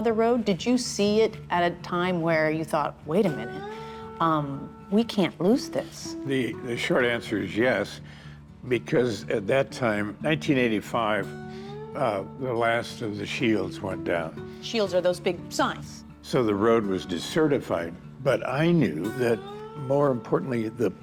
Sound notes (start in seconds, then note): none